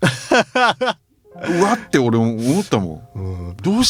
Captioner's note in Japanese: 笑い